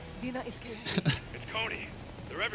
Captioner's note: sad laugh